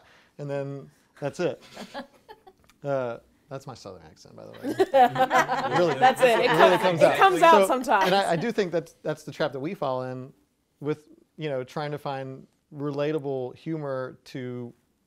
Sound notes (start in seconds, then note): 1.7 chuckling; 4.6 laughing